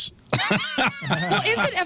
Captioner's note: laughing